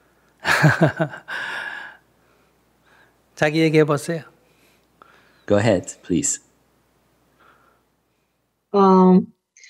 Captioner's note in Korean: 스님 웃음